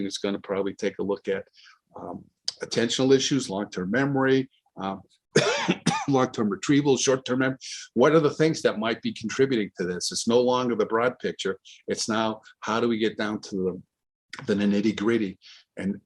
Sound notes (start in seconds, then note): 5.3 coughs